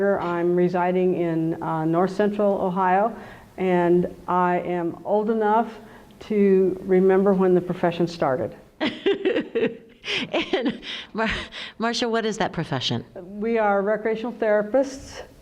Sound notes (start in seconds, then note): 8.8 laughter